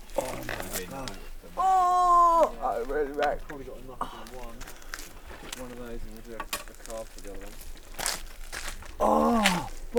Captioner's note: muffled chatter; anguished pain; loud groan